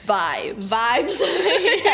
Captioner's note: laughs